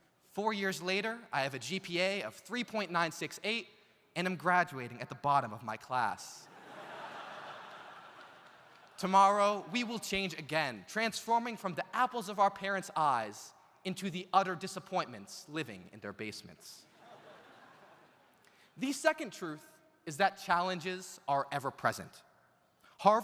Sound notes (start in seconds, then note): 6.5 audience laughs